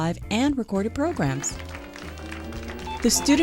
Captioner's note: applause